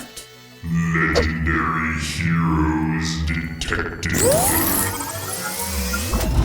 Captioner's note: robotic voice